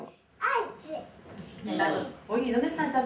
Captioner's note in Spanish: voces de niños